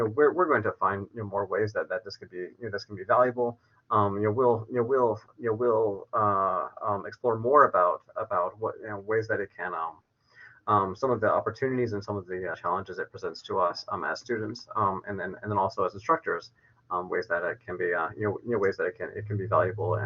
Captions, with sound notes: we're going to find more ways that that this could be valuable. (verbal stutters) we'll explore more about (verbal stutters) some of the opportunities and some of the challenges it presents to us as students and then and then also as instructors, ways that it can be be valuable